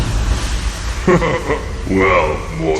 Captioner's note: laughing